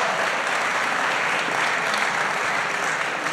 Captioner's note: applause